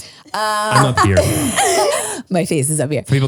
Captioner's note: laugh